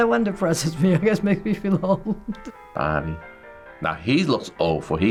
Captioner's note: chuckles